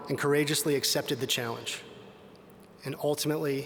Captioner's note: none